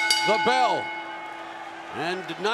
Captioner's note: bell ringing